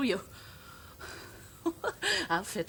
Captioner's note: chuckles